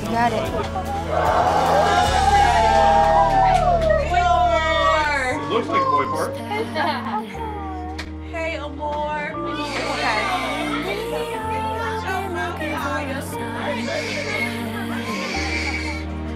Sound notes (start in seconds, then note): 1.0 cheering; 9.5 baby crying